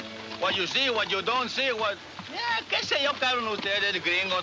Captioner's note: speaking Spanish